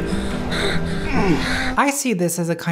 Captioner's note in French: Bella gémit; Edward gémit